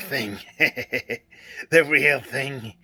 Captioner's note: laughs